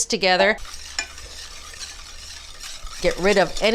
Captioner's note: whisk scraping